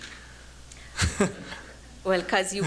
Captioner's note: chuckles